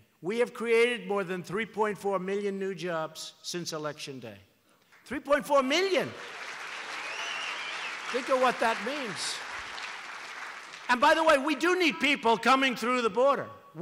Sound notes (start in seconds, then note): 5.9 applause